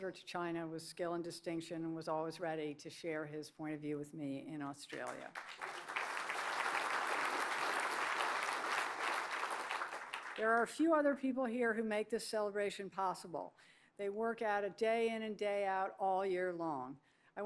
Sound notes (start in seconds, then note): 4.9 applause